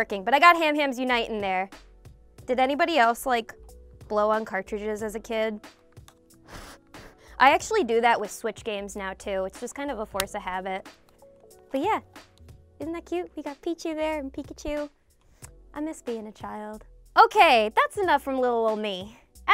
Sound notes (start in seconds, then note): 6.3 blowing air